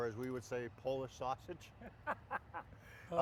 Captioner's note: laughing